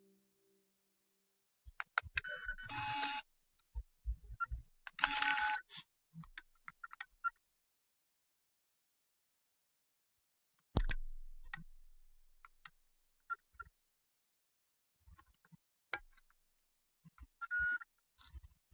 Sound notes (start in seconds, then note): 10.7 camera reel clicking